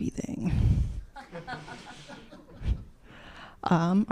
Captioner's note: laughter